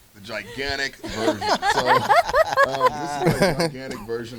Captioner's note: group laughs